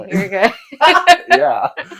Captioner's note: laughing